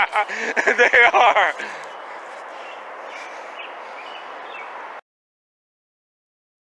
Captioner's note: laughing